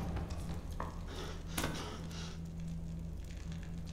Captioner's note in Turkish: Nefes sesi